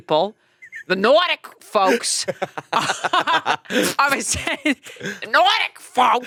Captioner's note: laughing